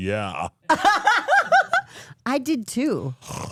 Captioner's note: laughs